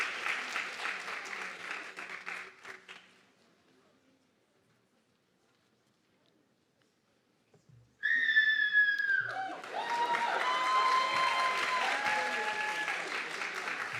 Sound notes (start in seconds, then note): 8.0 audience member screaming loudly; 9.0 audience clapping and cheering